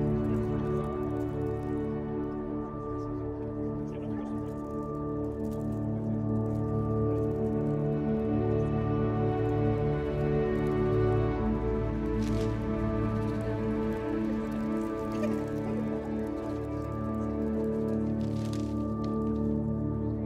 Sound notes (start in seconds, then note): 12.0 papers rustling